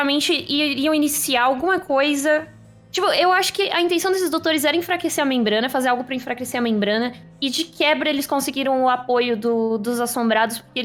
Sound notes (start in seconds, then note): none